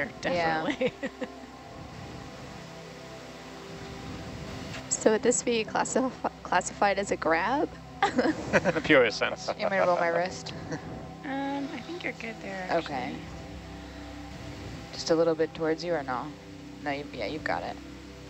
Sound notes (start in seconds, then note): 0.3 laughs; 8.0 group chuckles